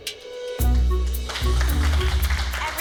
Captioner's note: applause